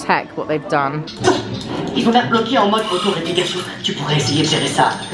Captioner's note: characters speaking French